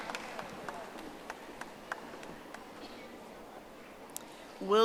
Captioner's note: audience applauding